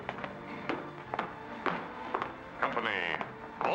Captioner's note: boot steps